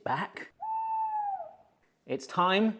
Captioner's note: owl hooting